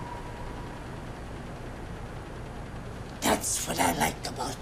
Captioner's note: ominous music; a/c continues to rattle